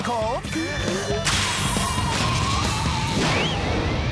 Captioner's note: panicked screaming